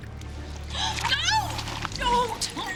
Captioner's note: gasps